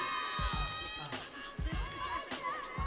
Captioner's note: audience cheering